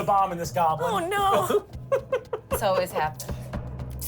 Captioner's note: laughs